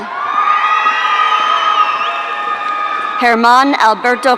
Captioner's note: audience cheering